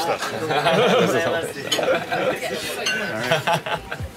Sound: laughs

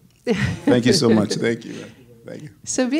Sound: laughs

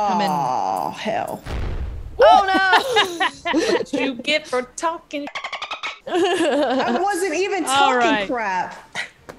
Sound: laugh

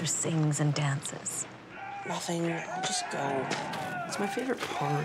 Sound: man Shouting In Movie

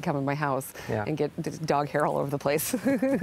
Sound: laughs

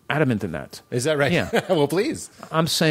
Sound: laughs

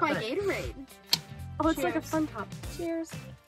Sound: none

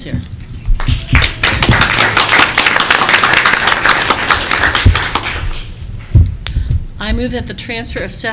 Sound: applause

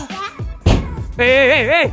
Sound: kicking window

